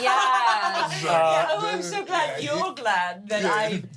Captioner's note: everyone laughs